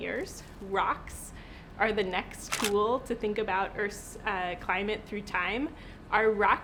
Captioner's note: camera flash